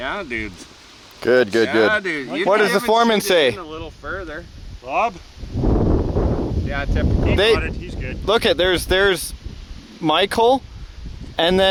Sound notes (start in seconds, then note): 6.0 wind blowing